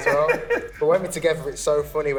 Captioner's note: laughs